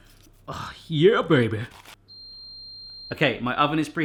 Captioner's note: oven beeps